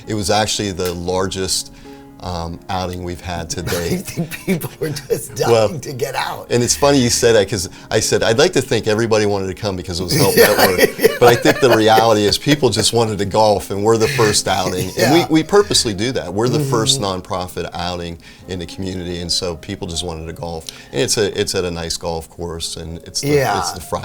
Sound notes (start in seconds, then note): 11.7 laughing